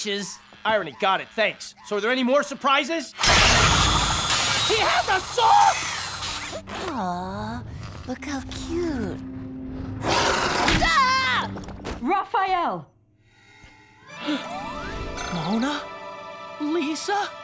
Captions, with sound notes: Irony. Got it. Thanks. So are there any more surprises? He has a saw?! Aw. Look how cute. [shrieking] Raphael. Mona... lisa?